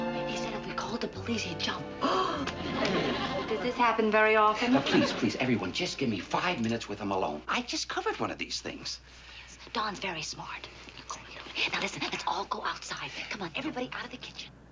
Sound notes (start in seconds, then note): 2.0 Harriet gasps